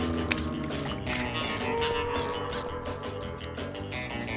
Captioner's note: spy music; squeaking